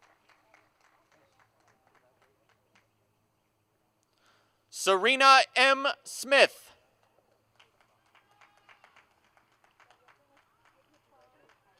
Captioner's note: applause